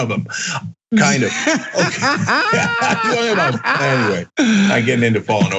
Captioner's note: laugh